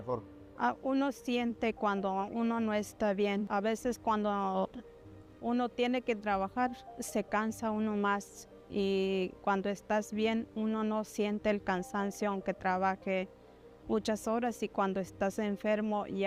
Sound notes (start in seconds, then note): 1.8 speaking in Spanish